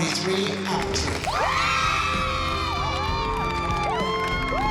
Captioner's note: applause and cheering